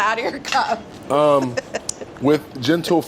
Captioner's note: laughs